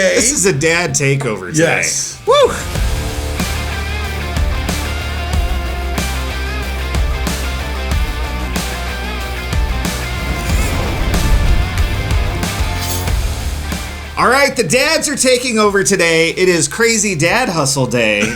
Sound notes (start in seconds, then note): 1.5 upbeat music; 9.8 explosion booming